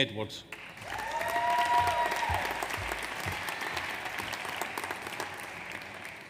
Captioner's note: audience applauds; audience cheers